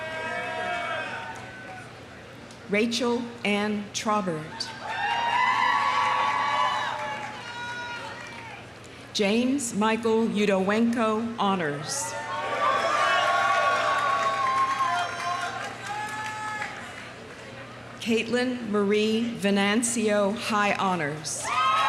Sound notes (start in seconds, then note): 0.0 audience cheering; 4.7 audience cheering; 4.8 audience applauding; 12.1 audience cheering; 12.5 audience applauding